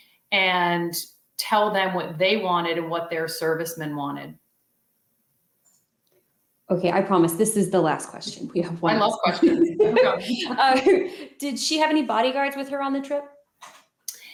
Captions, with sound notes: and tell them what they wanted and what their servicemen wanted. Okay. I promise this is the last question. I love questions. *laughter* Did she have any bodyguards with her on the trip?